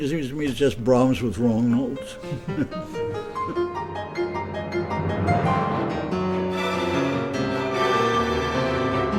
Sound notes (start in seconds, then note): 2.1 laughing